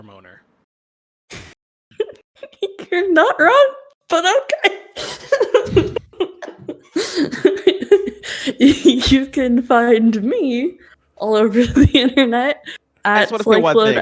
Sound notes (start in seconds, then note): 7.0 laughing